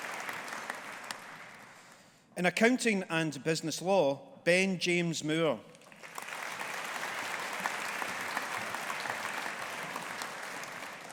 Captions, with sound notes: In Accounting and Business Law, Ben James Moore. (AUDIENCE APPLAUDING)